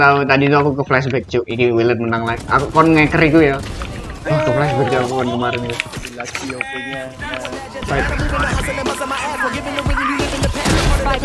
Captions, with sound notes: you know, I just got flashbacked "willed will win again".. when you ads.. (whoooaaa!) I just got flashbacked about yesterday's game INSANE!